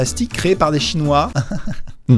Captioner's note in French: rire nerveux